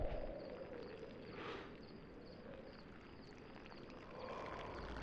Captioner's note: inhales, exhales